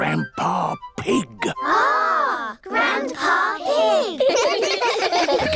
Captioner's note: giggling